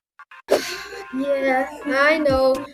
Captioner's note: sighs